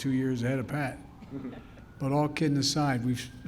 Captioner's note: laughter